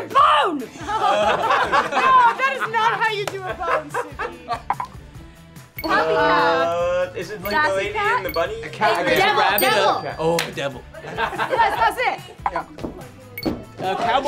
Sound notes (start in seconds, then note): 0.6 group laughing; 9.5 bell dings